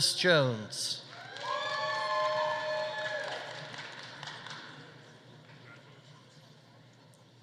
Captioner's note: audience cheering; audience applauding